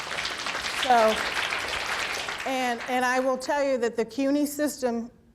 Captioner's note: applause